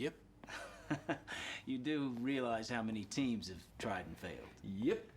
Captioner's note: Michael, laughing